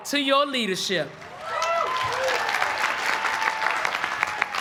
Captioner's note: cheering and applause